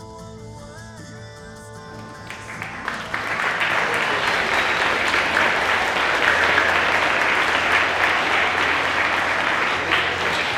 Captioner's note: applause